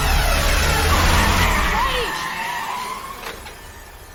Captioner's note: tires screeching